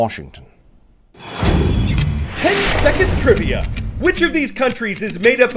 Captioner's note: voice-over